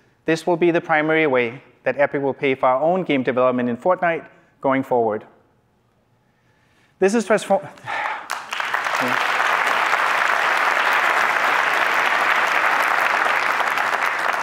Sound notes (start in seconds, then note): 7.8 applause